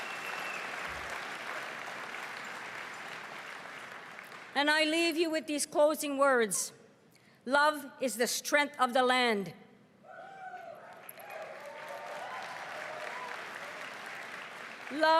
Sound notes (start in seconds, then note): 4.6 cheering and applause